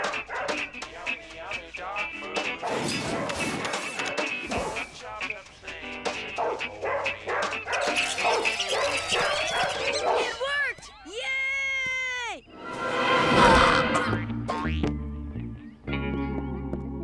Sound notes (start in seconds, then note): 6.7 squirrels scattering; 12.5 suspenseful music; 13.3 grunts; 13.3 humming